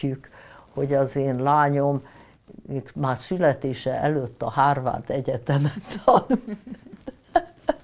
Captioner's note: laughing